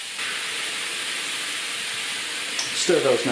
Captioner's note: sizzlin